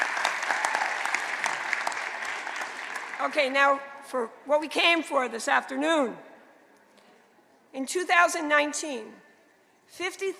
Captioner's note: applause